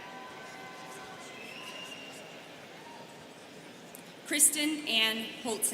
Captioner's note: students cheering